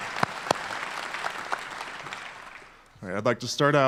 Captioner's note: applause